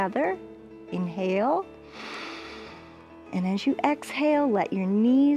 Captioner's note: inhales